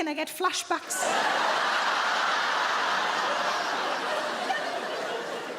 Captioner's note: audience laughing